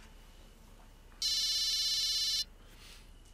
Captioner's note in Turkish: Telefon zili sesi